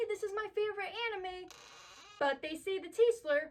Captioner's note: door creak